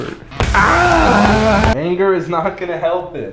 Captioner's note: banging; loud screaming